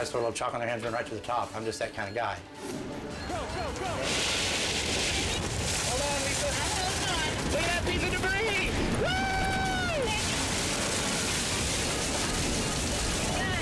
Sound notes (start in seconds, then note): 4.3 rain pouring; 9.0 whooping; 10.0 glass shattering; 10.3 tense dramatic music